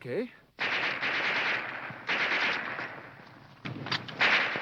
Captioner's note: guns firing